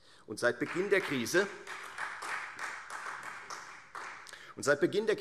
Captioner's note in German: Beifall Freie Demokraten